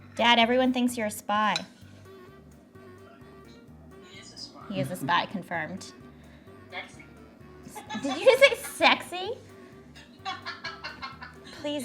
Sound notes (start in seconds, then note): 1.9 whimsical music; 7.7 laughs